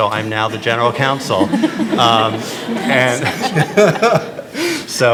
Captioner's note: attendees laughing